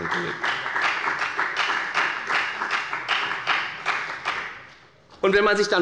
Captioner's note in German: Beifall bei der FDP